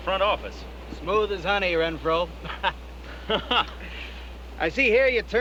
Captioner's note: laughing